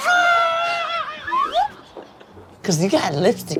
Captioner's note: laughing